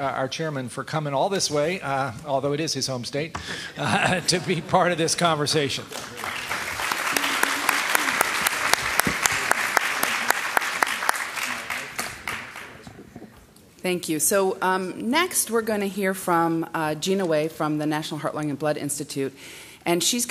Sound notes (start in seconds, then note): 5.7 applause